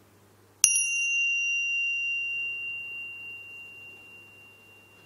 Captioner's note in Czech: zazvonění zvonku; dlouhé ticho